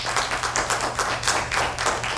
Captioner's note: applause